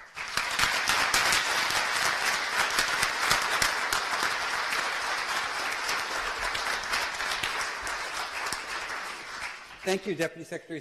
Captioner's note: applause